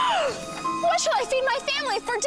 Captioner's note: gasps